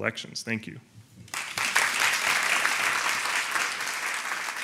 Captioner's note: applauding